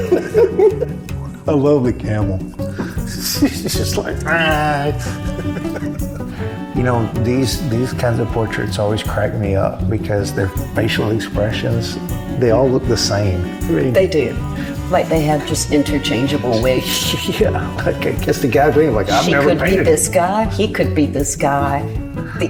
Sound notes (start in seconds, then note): 0.0 laughs; 4.0 camel noise; 4.6 laughs